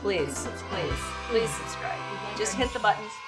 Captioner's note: children cheering